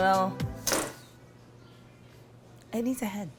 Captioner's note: music stops